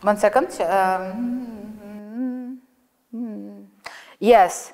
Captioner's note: hums